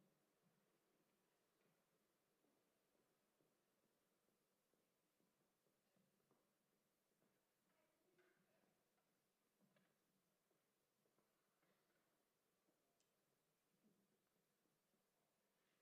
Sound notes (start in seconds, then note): none